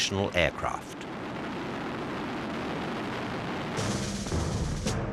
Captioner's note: plane roaring; dramatic music